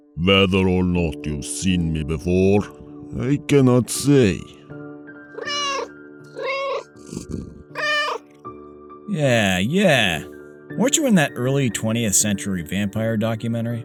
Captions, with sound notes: Whether or not you've seen me before, I cannot say. (Meow) (Meow) Yeah, yeah! Weren't you in that early 20th century vampire documentary?